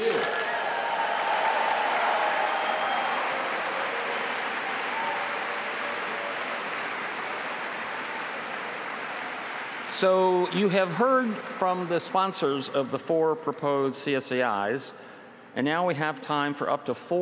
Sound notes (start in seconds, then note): 2.1 applause